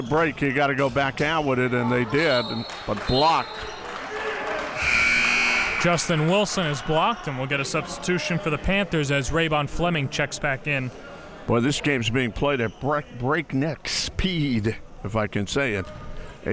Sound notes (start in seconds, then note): 4.7 buzzer sounds